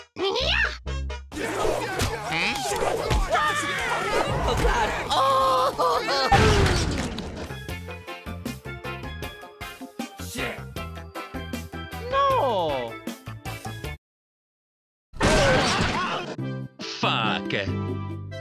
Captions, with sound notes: *exited noises* shet No! fuck